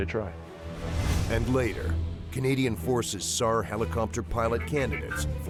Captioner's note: voiceover